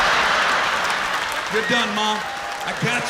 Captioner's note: laughter